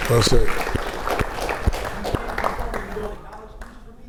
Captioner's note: audience applauds